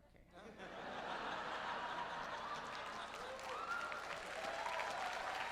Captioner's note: applause